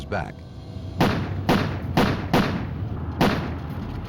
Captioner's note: gunfire